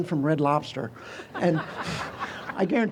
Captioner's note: audience chuckles